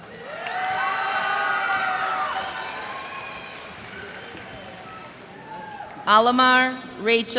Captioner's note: cheers and applause